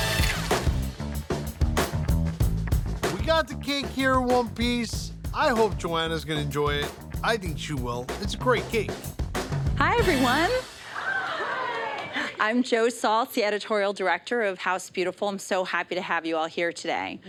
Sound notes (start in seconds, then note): 0.6 ice clatters; 0.6 upbeat funky music